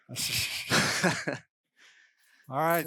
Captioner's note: laughs